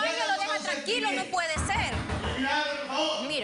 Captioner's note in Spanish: toques en la puerta